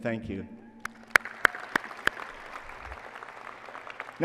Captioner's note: applause and cheering